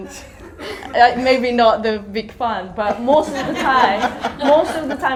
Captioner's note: audience laughter